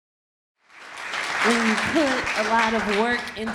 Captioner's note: audience clapping